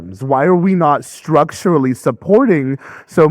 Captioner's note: none